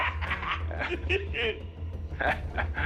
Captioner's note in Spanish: Risas